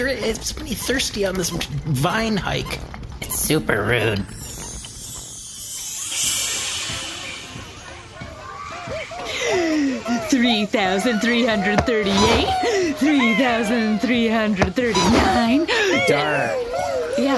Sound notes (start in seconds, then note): 9.0 laughter